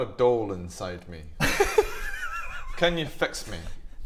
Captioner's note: inappropriate giggles